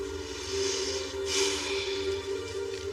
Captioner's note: sigighs